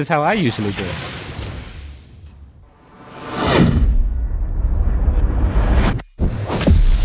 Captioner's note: magic whirling and wooshing